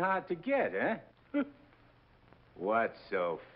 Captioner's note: Nick chuckles